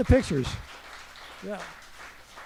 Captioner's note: audience applauding